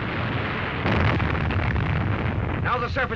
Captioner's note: loud explosion